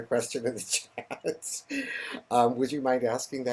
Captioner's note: laughs